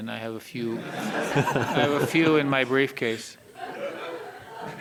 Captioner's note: all laughing